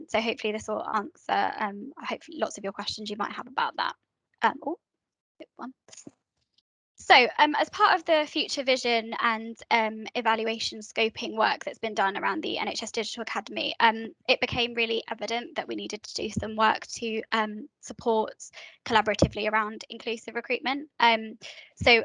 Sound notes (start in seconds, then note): 5.0 mumbles